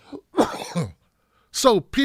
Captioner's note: coughs